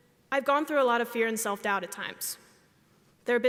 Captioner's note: none